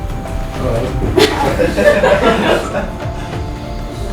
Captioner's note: laughing